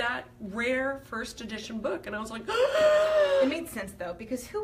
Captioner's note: gasp!